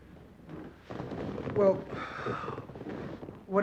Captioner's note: sighs